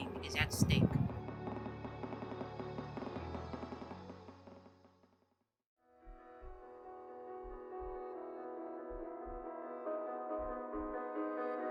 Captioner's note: credits Roll with Heartbeat Thump in the Background